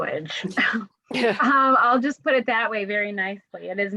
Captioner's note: laughter